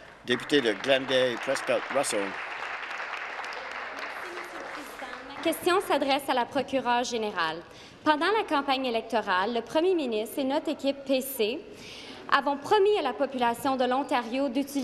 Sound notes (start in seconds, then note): 4.6 applause; 6.9 speaking in French